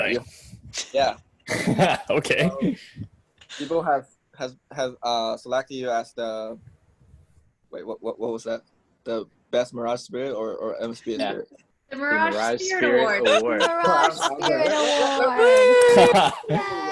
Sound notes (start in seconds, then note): 1.5 laughs; 13.1 teammates laughing